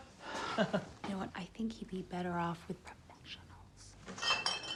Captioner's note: whispering